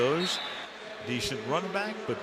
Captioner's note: whistle blows